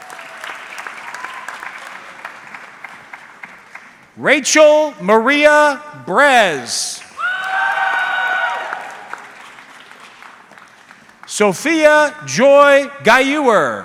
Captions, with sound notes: (audience clapping) Rachel Maria Bres. (audience cheering) Sophia Joy Gayuer.